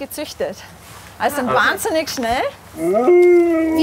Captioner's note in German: Heulen